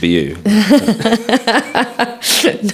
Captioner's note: laughs